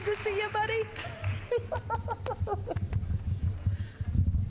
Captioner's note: laughing